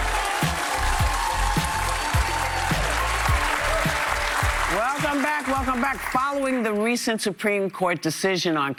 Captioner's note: applause